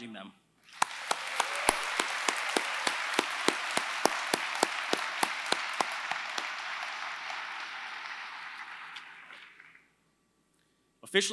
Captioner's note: applause